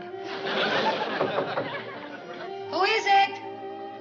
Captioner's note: knocking